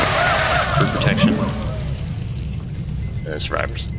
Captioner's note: cheers